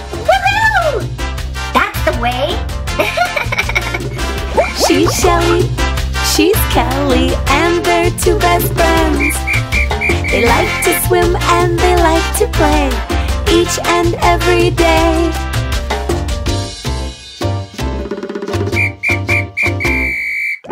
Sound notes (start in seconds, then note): 3.0 laughter; 9.1 whistle